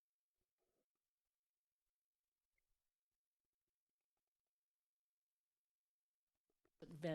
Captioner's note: silence